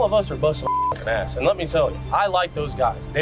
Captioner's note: beep